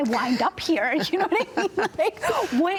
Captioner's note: both laugh